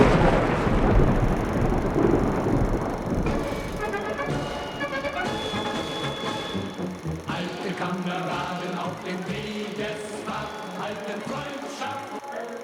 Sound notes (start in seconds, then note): 0.9 film reel ticking; 0.9 upbeat music; 7.4 film reel ticking; 7.4 singing in foreign language